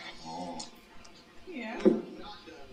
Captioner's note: dog vocalizing